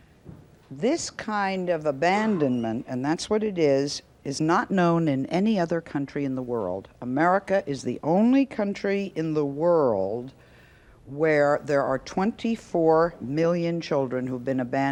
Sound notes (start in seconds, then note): none